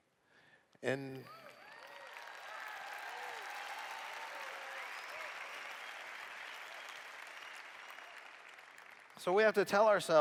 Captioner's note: cheers